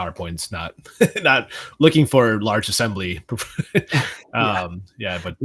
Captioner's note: laughs